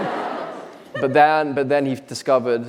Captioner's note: audience laughing